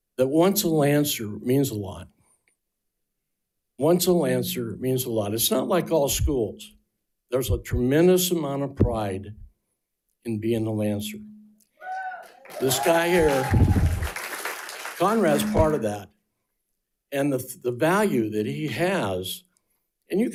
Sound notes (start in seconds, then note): 14.1 attendees applauding